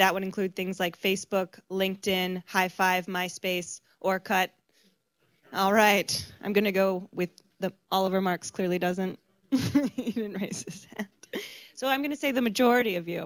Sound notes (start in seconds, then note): 9.9 laughs